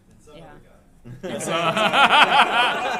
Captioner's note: laughter